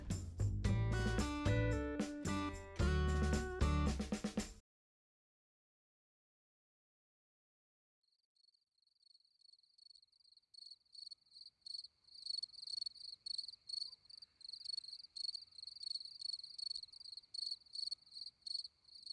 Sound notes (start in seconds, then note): 0.0 chill music; 4.5 no music and sounds of crickets in the background